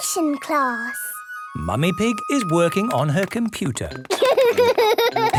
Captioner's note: laughter